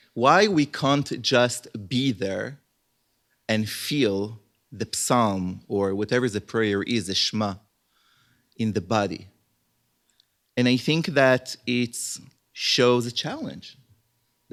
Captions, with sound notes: Why we can't just be there and feel the psalm or whatever the prayer is, the [HEBREW] in the body. And I think that it shows a challenge